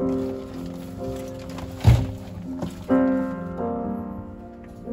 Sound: backpack rustling

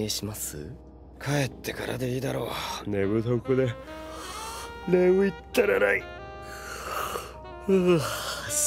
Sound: yawns

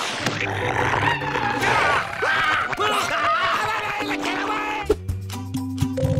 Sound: growling; screaming

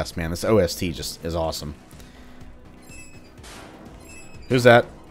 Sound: valves squeaking, loud banging

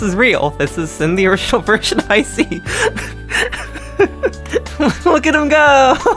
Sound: laughing

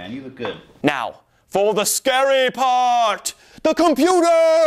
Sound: dramatically

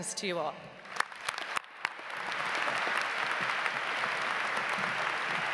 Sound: audience applauds

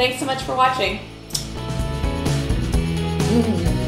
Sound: lips smack

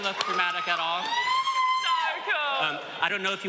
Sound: screaming

